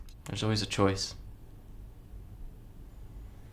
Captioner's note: none